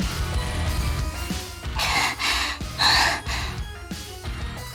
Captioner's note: panting